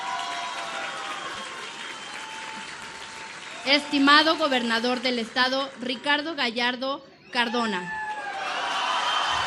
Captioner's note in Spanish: aplausos